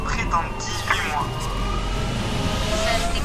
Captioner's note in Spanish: sirenas de ambulancia